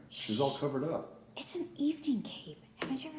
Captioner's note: shushing